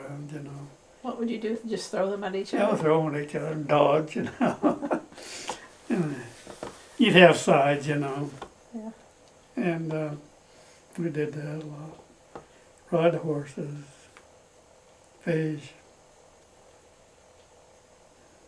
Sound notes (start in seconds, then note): 6.9 laughs